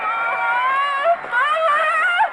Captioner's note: cheering